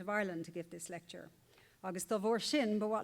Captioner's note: foreign Language